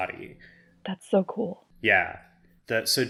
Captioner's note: hushed